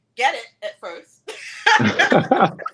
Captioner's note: laughter